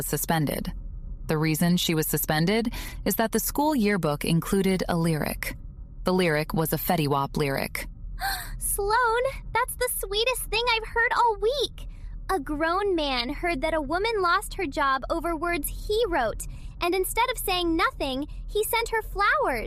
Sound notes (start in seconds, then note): 8.3 gasp